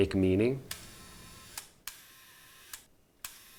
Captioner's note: shutter clicks